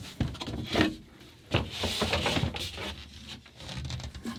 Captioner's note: objects shuffling